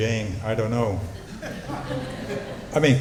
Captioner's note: laughter